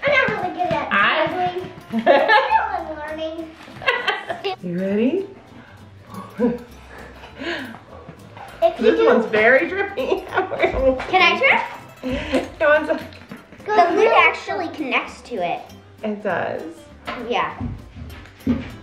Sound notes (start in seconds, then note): 3.8 laughs